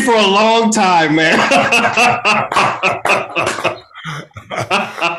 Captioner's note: Tony laughing